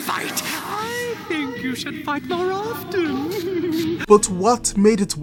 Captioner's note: laughs evily